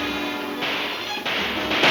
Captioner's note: gun firing; guns firing; shot ricocheting